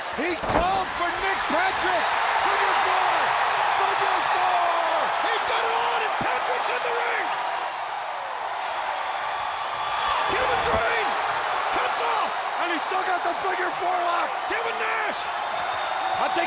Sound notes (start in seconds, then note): 0.2 body thudding; 2.2 audience cheering; 7.7 audience cheering